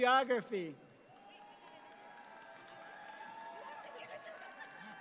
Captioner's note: audience applauds